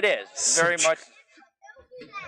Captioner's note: laughs